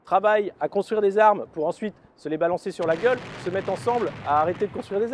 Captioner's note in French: bruits d'explosions